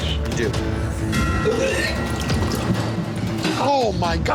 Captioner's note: vomiting